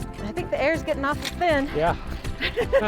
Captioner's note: both laughing